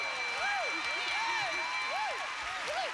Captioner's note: cheers and applause